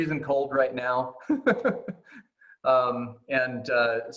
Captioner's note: laughing